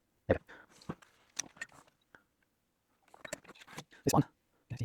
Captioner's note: silence